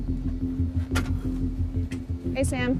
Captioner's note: door opens; door closes